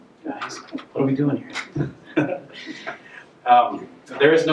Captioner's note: laughing